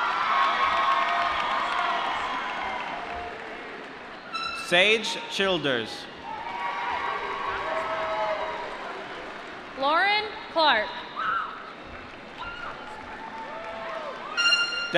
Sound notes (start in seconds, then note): 0.0 applause; 6.1 cheering; 11.8 applause